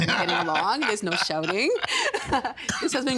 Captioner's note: laughing